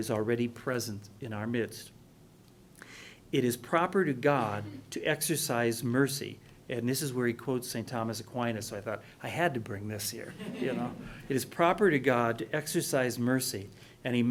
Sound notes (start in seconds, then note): 10.2 laughing